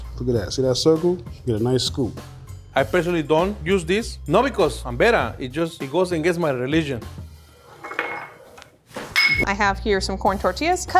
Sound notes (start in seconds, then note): 7.5 bowl sliding; 7.8 bowl hits floor